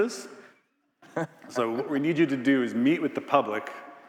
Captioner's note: Biz laughing